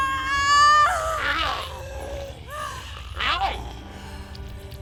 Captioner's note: Giree grumbling